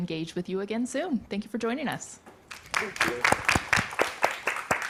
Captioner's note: audience applauding